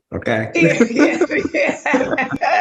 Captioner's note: laughs